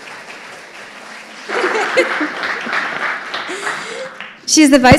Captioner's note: audience applauding; laughing